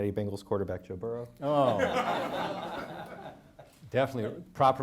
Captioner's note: audience laughing